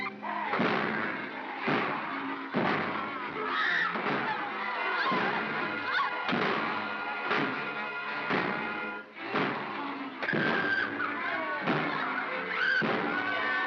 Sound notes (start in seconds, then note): 0.1 bogeymen growl; 1.5 banging; 3.4 Bo Peep screams; 3.5 bogeymen growl; 5.6 banging; 5.6 bogeymen growl; 10.3 Bo Peep screams; 10.3 banging; 12.3 Bo Peep screams; 12.7 banging & growling; 13.2 suspenseful music